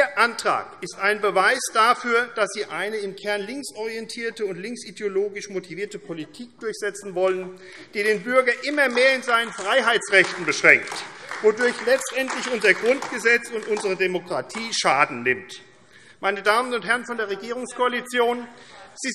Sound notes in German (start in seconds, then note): 8.4 Beifall AfD